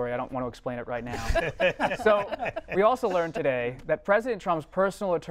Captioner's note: laughter